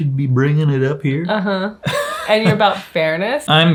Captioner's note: chuckles